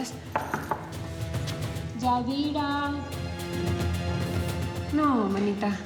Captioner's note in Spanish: toques en la puerta